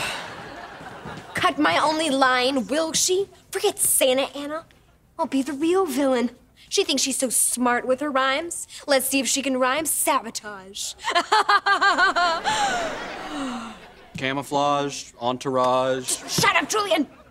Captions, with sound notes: Cut my only line, will she? Forget Santa Anna, I'll be the real villain! She thinks she's so smart with her rhymes, let's see if she can rhyme "sabotage". [laughing maniacally] - Camouflage, entourage... - Just shut up, Julian!